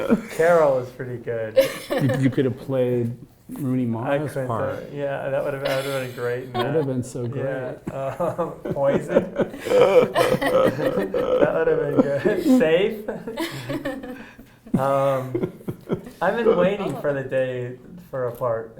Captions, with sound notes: "Carol" is pretty good. - You could have played Rooney Mara's part. - Yeah I would have been great in that. - That would have been so great. - Yeah. "Poison", (laughter) That would have been good. "Safe". I've been waiting for the day for a part